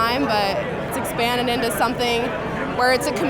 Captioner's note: none